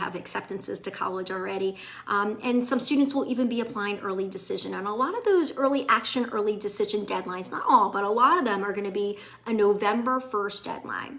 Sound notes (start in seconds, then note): none